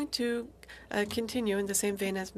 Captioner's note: speaking French